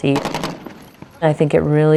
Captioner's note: guns firing